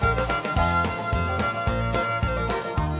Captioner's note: laughing